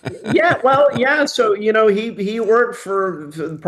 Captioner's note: laughing